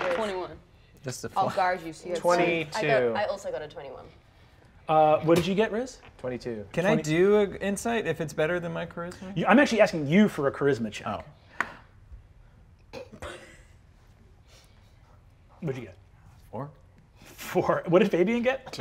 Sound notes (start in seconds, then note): 11.6 die taps table; 13.0 chortle